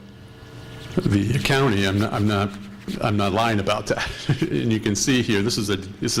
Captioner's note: laughter